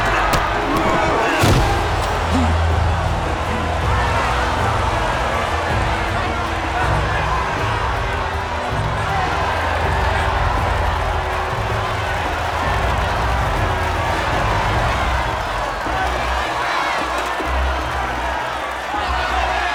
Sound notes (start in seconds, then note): 1.1 crowd cheering; 15.0 crowd shouting